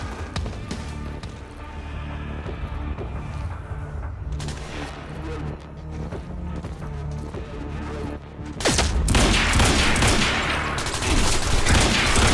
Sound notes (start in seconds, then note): none